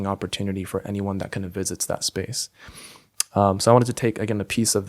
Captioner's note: lips smack